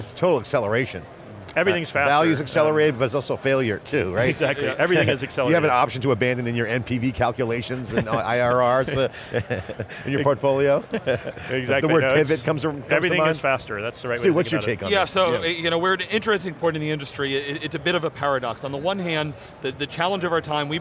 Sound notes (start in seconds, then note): 8.8 laughing